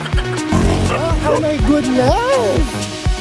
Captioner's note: laughing SFX; dog barking; traffic noise